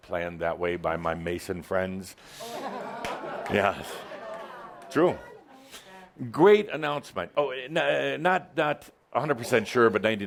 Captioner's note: laughter